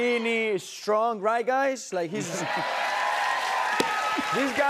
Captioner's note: cheers and applause